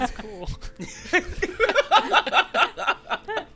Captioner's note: laughter